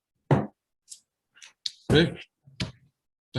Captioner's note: gavel thuds